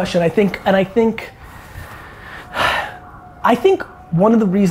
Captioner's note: sighs